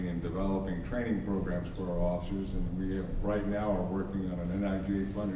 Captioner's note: none